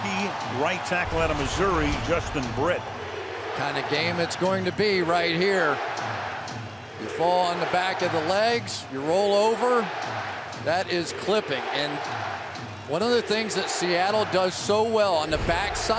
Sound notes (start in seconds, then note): 2.8 crowd chanting "defense"